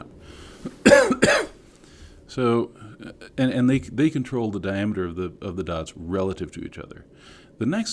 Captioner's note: cough